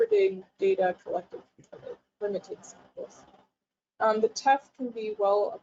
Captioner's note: audio is choppy